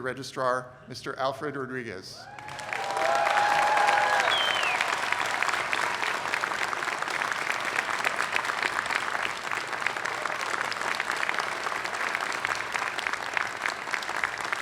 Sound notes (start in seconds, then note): 4.0 applause